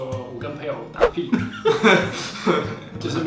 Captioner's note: laughing